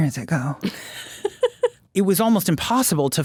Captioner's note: laughing